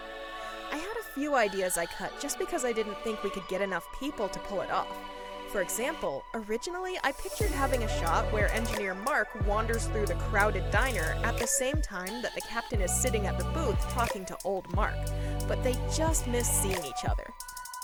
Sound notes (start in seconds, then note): none